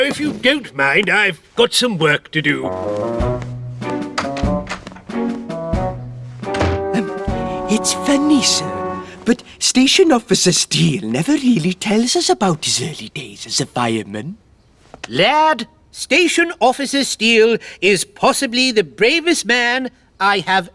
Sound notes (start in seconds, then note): 7.6 lowered Voice